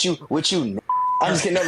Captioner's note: beep